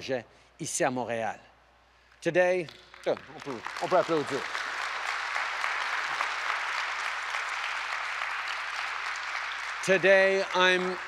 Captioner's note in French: Applaudissements